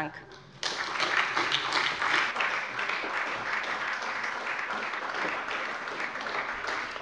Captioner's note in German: Beifall bei der SPD